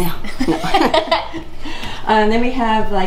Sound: laughing

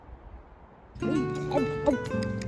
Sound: eating sounds

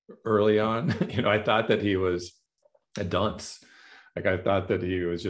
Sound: laughter

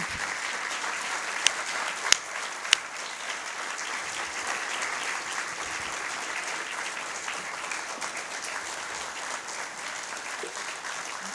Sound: applause

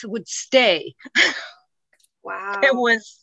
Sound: chuckles

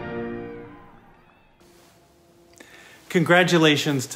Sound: distant crowd cheering

